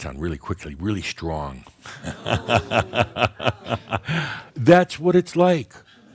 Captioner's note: Adamus laughs and audience says “Ohhh!” as the lights become very bright